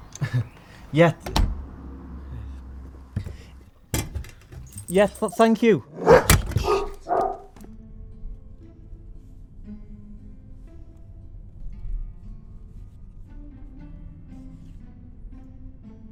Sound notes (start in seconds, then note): 0.1 Sean laughs; 5.8 loud aggressive barks